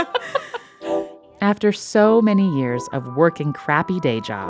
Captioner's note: laughter